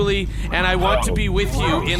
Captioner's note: audibly disturbed